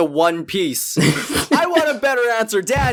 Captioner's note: laughs